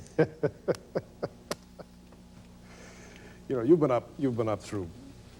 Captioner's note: laughs